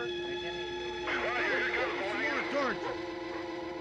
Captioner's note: murmuring